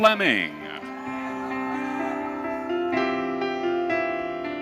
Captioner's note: audience cheering